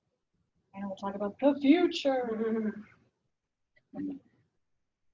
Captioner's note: laughs